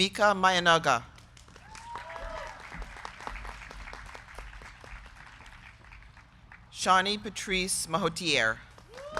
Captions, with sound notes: Mika Maenaga. (crowd cheering) (crowd clapping) Shani Patrice Mahotiere.